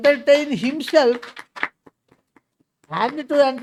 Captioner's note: claps